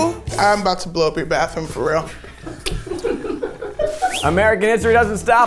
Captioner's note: laughs